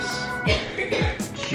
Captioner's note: coughing